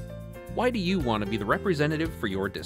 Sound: voiceover

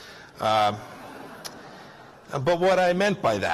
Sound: laughter

